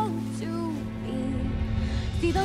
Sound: leaves rustle

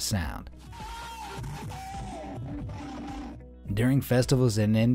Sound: speakers blaring

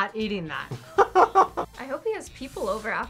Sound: laughs

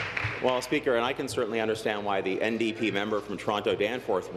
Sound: applause

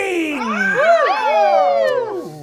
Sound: all cheering

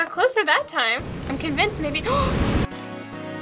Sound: gasps

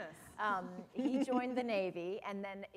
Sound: laughter

